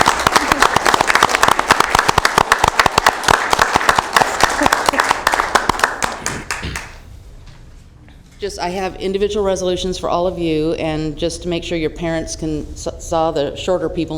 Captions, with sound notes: PLACE IN OUR STATE FOR RELIGION. THEY ARE VERY IMPRESSIVE. [ APPLAUSE ] >> I HAVE INDIVIDUAL